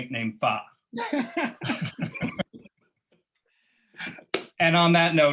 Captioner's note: laughter